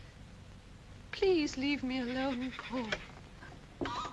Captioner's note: goat brays; puppet makes strange voice